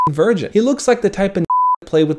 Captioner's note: beep; beep